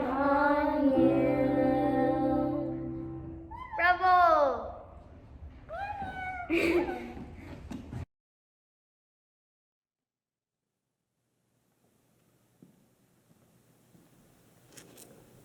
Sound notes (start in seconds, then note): 3.7 children making animal noises and having fun